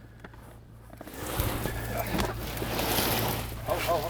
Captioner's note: crew grunting